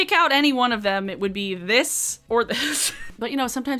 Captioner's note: chuckles